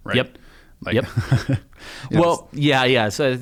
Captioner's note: laugher